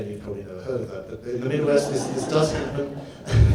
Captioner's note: audience laughs